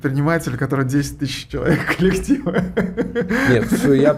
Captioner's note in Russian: смех